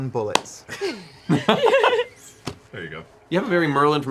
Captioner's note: laughter